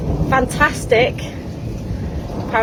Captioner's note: thunder